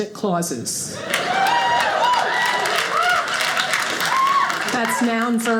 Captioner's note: audience applauding